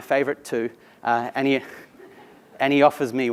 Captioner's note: laugh